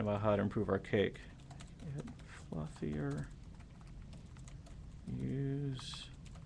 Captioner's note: typing